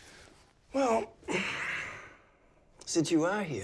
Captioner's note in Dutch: zucht